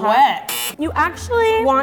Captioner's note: buzzer